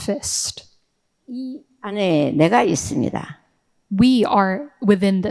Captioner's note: speaking in foreign language